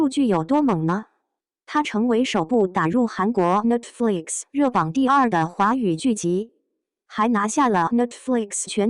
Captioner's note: non-English